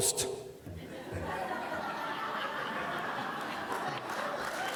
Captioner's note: laughter